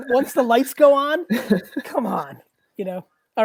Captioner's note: laughs